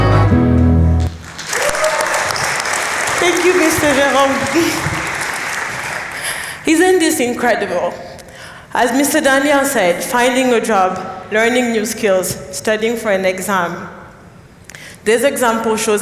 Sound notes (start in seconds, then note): 1.0 applause